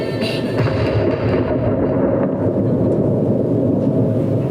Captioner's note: thunder cracks